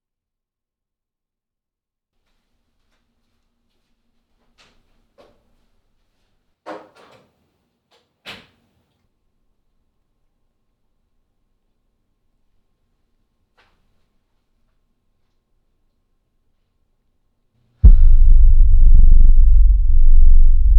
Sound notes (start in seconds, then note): 4.4 door opens; 8.3 door closes; 17.8 ominous music